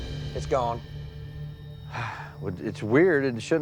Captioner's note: sighs